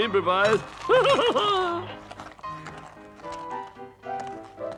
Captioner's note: Toad laughs